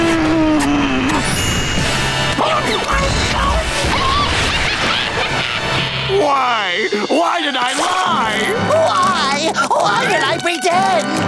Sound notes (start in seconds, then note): 0.3 smooching; 2.1 screaming; 3.7 laughing